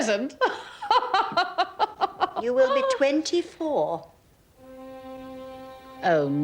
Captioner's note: laughs